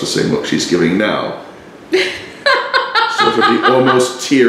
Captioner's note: laughing